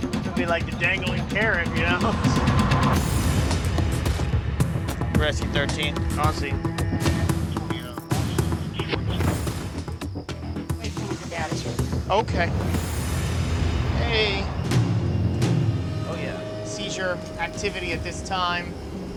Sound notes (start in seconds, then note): 2.5 laughs; 2.9 siren wailing